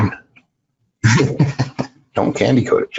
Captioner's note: laughs